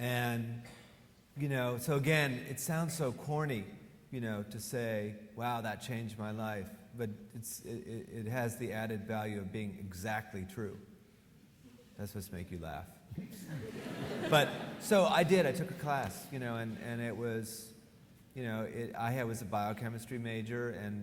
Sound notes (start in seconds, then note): 13.3 audience laughing